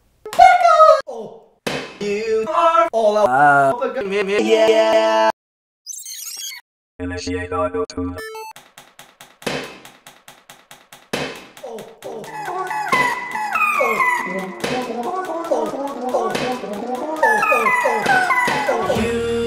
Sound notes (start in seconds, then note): 0.2 clips of singing; 5.8 tape rewinds; 6.9 robotic voice; 8.5 remixed clicking and hitting